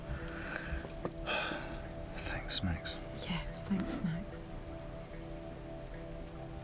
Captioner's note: Martin, sighing